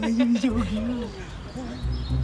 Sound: birds chirping; upbeat music

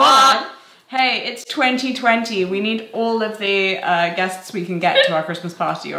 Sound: laughs

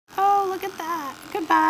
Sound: clippers vibrating

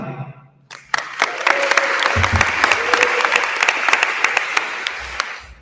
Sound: attendees applauding

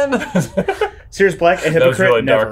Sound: laugh

